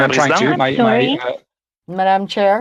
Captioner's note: speaking French